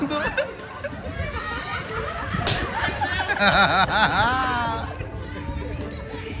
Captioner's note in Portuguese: risos